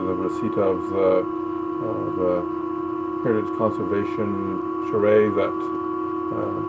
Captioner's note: loud static muffling voice